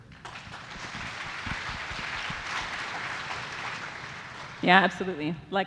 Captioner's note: audience applauding